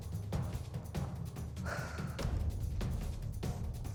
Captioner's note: exhales